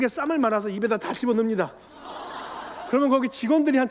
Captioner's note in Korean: 웃음